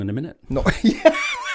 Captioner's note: laughs